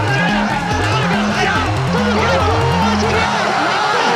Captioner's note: crowd cheering; players shouting; cheering